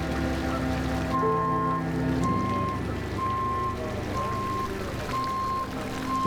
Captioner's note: multiple beeps continues